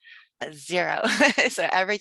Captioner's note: laughs